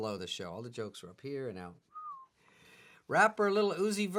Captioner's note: whistles